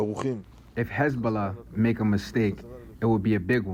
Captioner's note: through translator